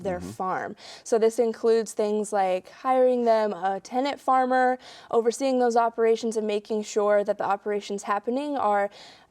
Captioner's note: none